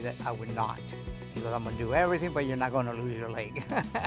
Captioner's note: chuckles